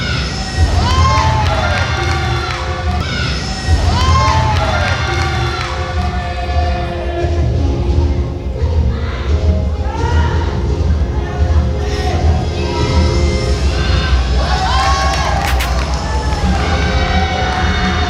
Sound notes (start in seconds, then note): 0.6 applause!